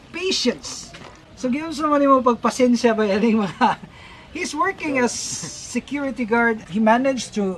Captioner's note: different language